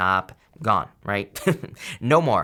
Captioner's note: speaker laughing